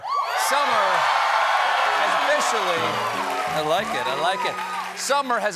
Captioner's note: cheers and applause